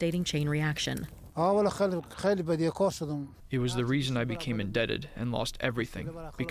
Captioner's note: through translator